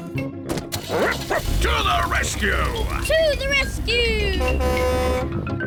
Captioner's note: barks; horn blares